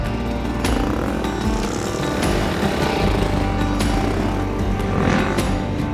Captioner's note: bike engines growling; soft upbeat music